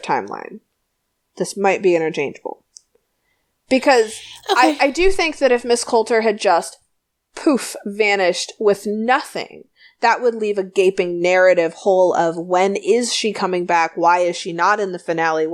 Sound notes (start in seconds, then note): 7.4 poof